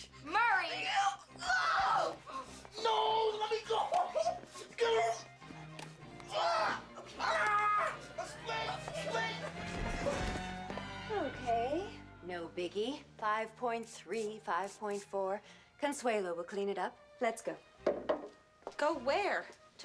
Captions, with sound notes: MURRAY! MURRAY. NO, T LEME GO. ( screaming ) QUICK, QUICK. OKAY. NO BIGGIE-- 5.3, 5.4. CONSLAUE WILL CLEAN IT UP. LET'S GO. GO WHE?RE